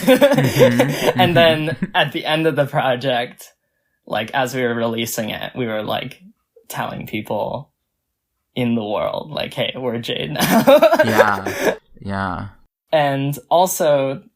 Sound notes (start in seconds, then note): 0.0 laughs; 10.7 laughs